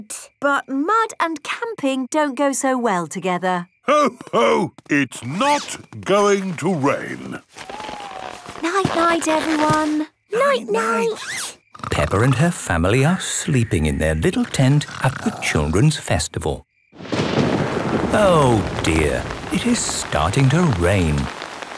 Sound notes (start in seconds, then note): 11.8 snores; 16.9 thunder rumbling